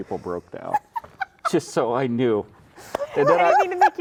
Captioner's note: laughing